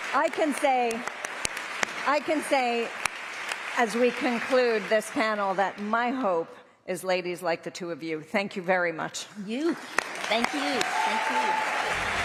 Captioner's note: applause